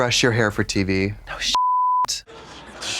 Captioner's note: beep